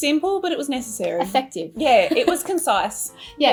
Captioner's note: laughs